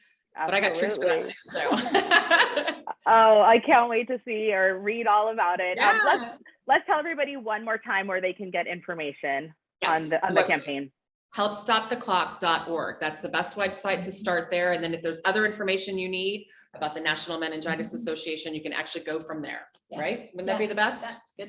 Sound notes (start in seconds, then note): 1.7 laughs loudly